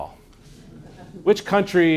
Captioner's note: laughter